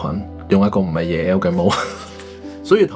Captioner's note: laughs